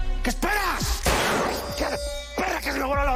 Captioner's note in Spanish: Disparo